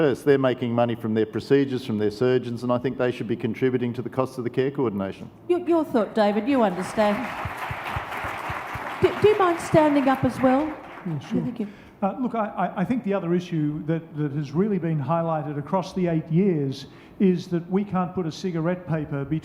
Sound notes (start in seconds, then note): 6.4 audience applauds